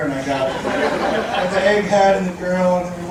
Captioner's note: audience laughing